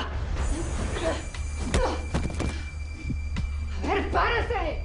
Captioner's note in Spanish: Quejido